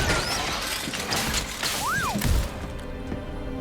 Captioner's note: whistle